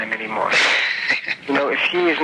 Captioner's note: man laughing